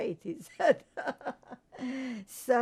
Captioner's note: laughing